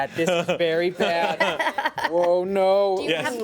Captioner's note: women laughing